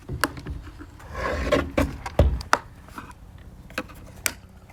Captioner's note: plastic scraping